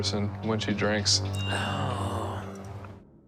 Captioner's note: groans